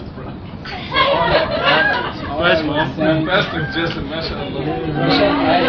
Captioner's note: gülüşmeler